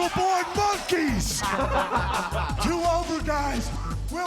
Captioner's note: Thrillers laugh